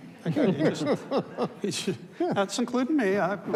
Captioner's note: panelists laughs; audience laughs